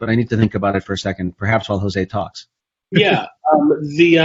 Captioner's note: laughs